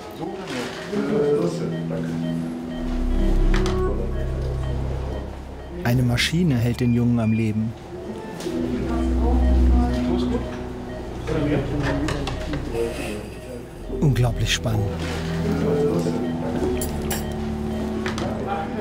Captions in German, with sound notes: (Piepen, leises Gespräch) Eine Maschine hält den Jungen am Leben. (Piepen, leises Gespräch) Unglaublich spannend.